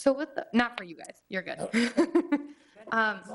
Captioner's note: laughs